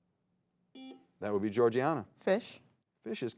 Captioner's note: buzzer beeps